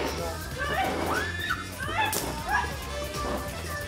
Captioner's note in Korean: 꺄악!!!